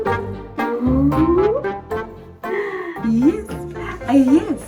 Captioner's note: gasps